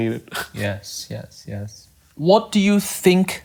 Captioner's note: laughs